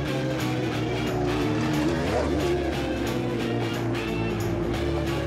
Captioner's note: engine revs